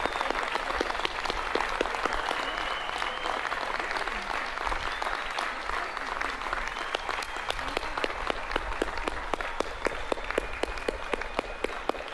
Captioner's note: applause